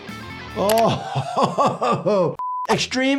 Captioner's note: laughing